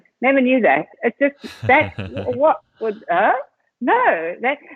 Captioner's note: laughing